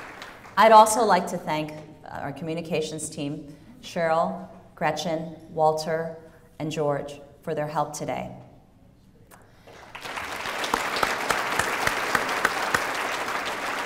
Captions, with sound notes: I'd also like to thank our communications team, Cheryl, Gretchen, Walter, and George, for their help today. (applause)